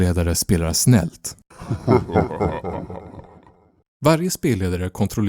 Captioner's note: evil laughter